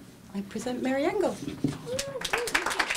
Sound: applause

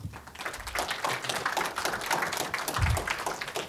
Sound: crowd claps

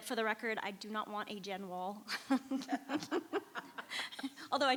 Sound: laughs

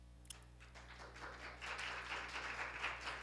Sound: applause

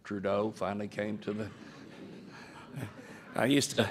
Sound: laughter

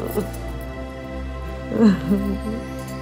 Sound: crying

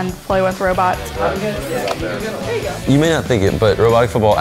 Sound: chattering

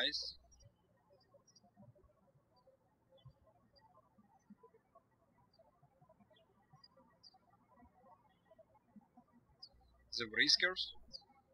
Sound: birds chirping

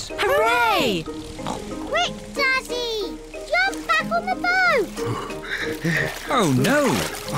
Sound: panting

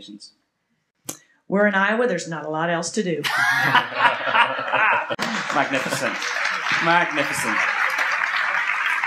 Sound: laugher and applause

